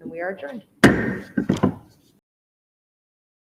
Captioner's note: gavel taps